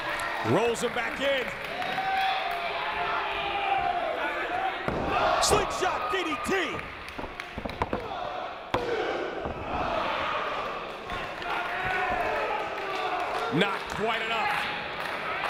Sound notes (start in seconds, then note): 0.0 applause; 10.8 applause